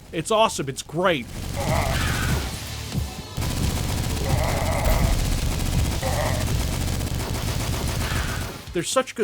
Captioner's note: Fast Fire Totem-enhanced Machine Gun fire